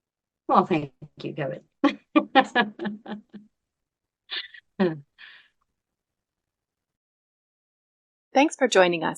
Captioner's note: laughing